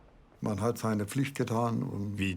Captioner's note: speaking in foreign language